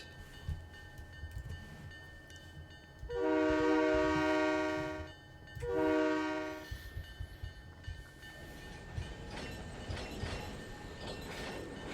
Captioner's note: train whistle